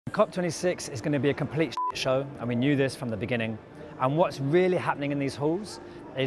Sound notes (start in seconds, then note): 1.8 beep